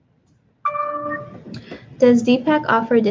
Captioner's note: computer dings